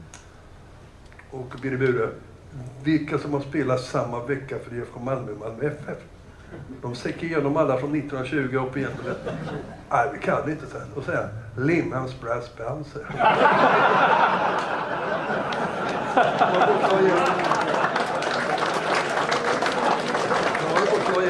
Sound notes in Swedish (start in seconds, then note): 14.7 Skratt; 15.4 Applåder